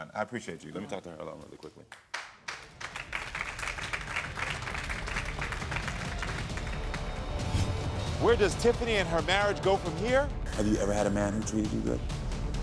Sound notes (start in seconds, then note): 1.9 audience applauds; 4.2 dramatic music